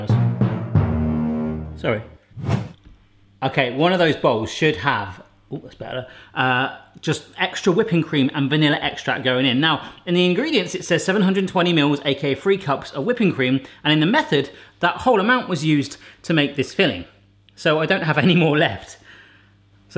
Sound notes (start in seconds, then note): 2.3 whoosh